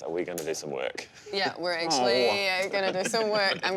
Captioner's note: laughs